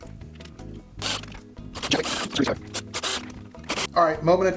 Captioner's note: drill buzzing